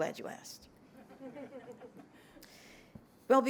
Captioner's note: laughter